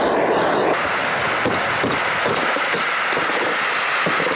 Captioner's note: chipping; scraping